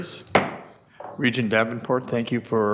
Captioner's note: gavel pounding